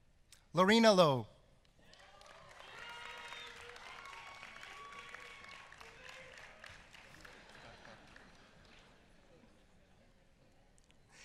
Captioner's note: applause